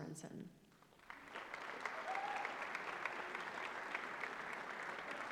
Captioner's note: applause